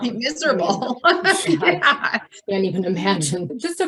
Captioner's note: laughs